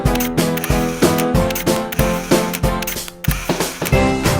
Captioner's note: camera shutter clicking